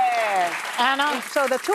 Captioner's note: applause